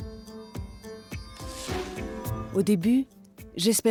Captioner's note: upbeat music continues; air whooshing